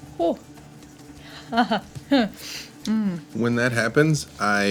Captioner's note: laughing